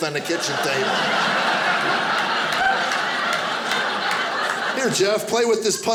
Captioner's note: audience laughing